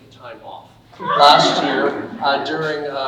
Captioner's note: audience laughing